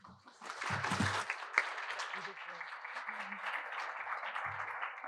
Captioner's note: applause